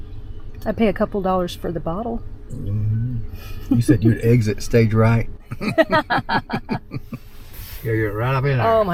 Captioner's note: both Laughing